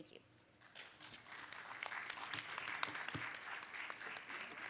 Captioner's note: audience claps